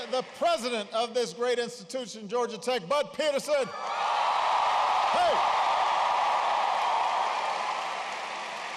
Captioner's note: applause